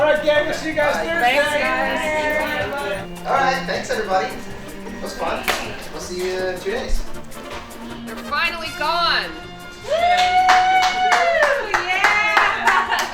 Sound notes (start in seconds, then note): 9.8 speaker clapping